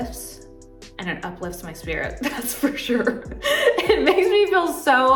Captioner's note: chuckles